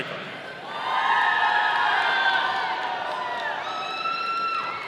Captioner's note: audience cheering